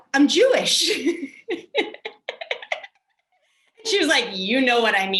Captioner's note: laughs loudly